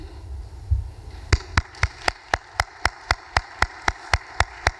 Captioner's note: audience applause